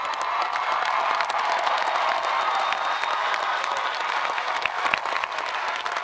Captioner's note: audience applauding and cheering